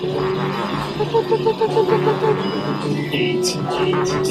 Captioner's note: whistling